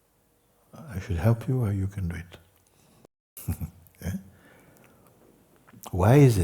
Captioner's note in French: rires